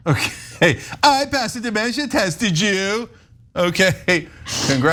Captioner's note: laugh